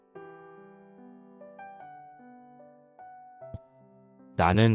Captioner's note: silence